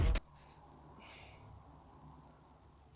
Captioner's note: sigh